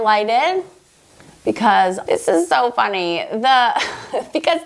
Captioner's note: laughs